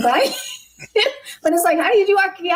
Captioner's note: laughs